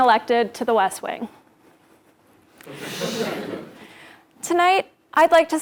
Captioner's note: laugh